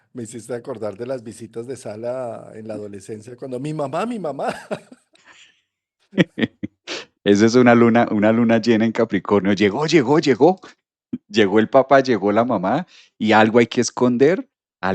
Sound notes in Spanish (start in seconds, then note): 6.1 risas; 7.3 resoplido